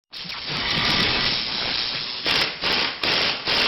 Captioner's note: drilling sounds